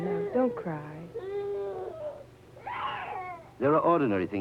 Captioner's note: crying